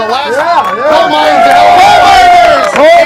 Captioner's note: crowd Shouts